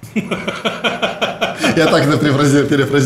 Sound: both laugh

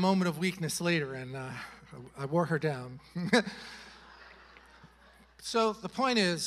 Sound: chuckles

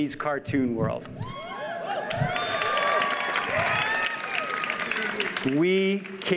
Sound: audience cheers and applauds

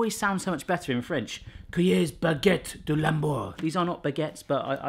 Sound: speaking foreign language

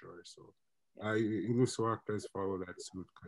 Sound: mutters

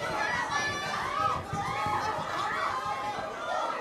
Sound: people chatter and squeal

